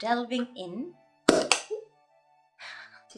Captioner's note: thermos pops